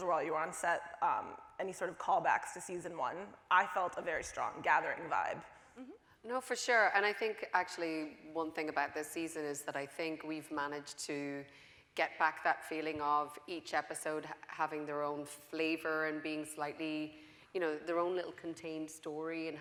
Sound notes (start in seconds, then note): none